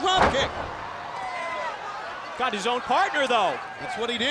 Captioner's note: applause